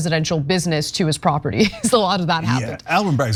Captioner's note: laugh